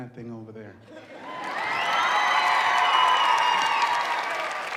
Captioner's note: audience cheering